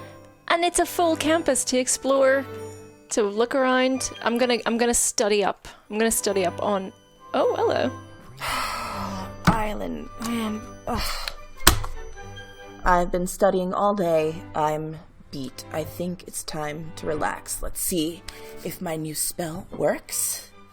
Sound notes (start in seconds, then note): 7.0 murmurs; 8.2 groans; 8.4 exhales sharply; 11.3 cards bumping